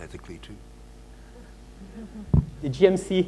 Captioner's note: audience chuckles